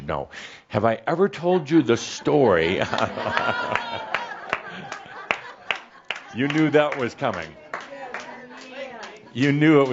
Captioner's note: some chuckles and a few claps